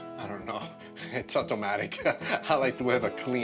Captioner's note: laughs